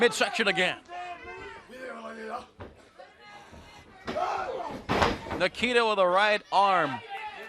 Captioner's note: crowd chatter